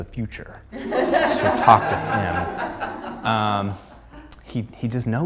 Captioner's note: laughter